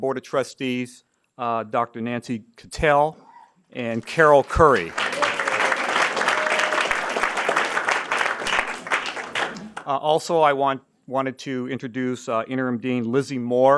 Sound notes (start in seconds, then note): 5.7 applause and Cheering